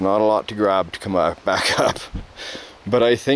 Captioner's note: chuckles